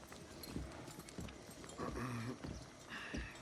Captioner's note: none